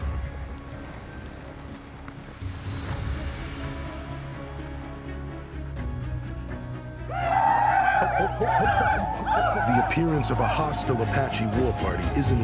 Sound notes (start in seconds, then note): 6.9 war cries